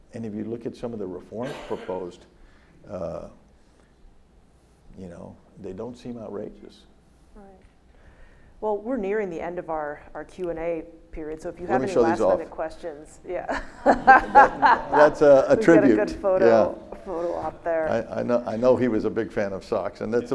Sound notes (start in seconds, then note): 13.6 audience laughs